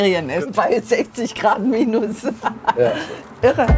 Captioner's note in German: lacht